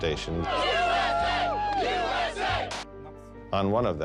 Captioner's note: crowd chanting, "USA!"